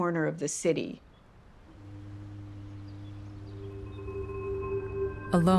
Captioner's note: birds chirping